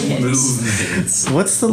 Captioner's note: laughing